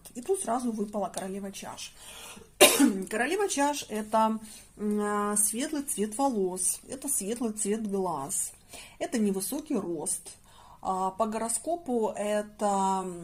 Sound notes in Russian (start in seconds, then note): 2.6 откашливается